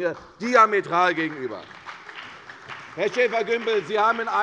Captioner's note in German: Beifall bei der CDU und dem BÜNDNIS 90/DIE GRÜNEN